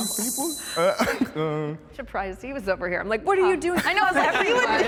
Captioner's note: laughs